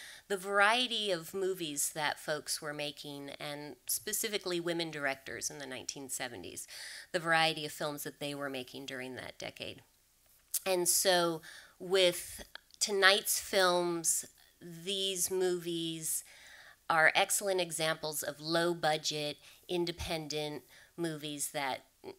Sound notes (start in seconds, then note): none